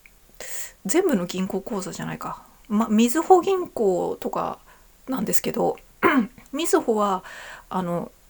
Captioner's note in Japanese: 咳払い